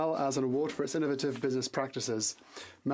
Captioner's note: speaking French